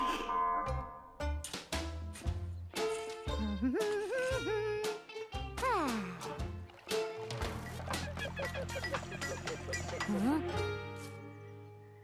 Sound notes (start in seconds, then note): 2.8 humming; 7.5 distant squeaking